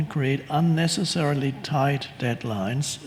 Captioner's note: none